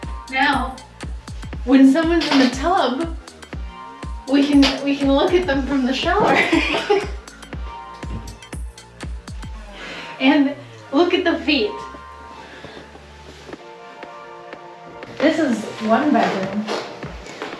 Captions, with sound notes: Now, when someone's in the tub, We can look at them from the shower! [laughs] And look at the feet. This is one bedroom,